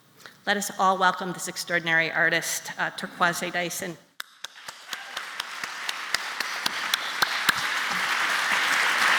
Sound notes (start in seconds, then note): 4.2 applause